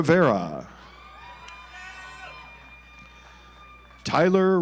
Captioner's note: audience applauds